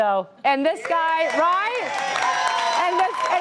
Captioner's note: applause